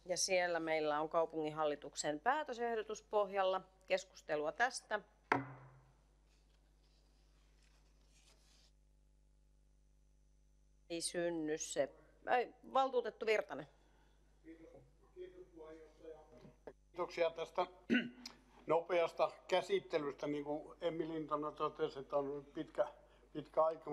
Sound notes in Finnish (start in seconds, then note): 5.3 Nuijan kopautus